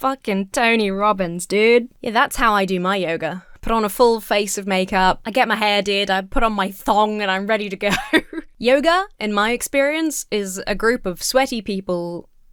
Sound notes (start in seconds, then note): 7.8 laughs